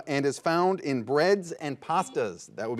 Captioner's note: buzzer buzzes